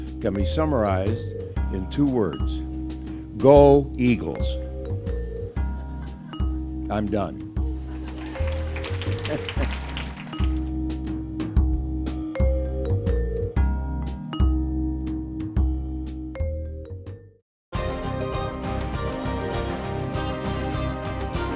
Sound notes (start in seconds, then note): 7.9 applause; 9.2 laugh